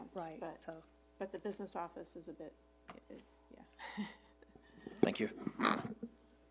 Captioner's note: chuckles